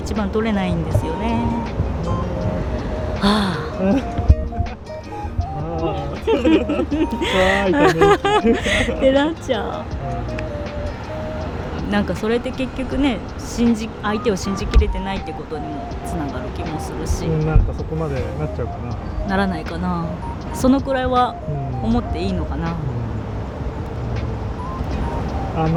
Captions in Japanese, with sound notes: 1番取れないんですよね。ああ、 [笑い] てなっちゃう。 なんかそれって結局ね、信じ相手を信じきれてないってことにも繋がる気もするし うん。なんかそこまでなっちゃうかな。 ならないかな。そのくらいは。 うん。思っていいのかな? うん。